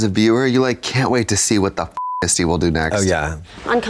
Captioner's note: beep